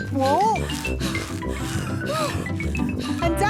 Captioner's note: puffing and panting